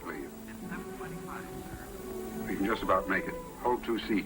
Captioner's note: on phone